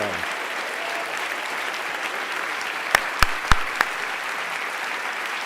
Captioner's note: audience applause